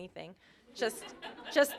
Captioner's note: laughter